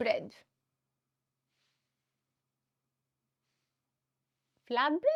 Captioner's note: silence